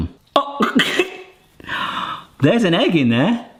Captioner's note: man laughing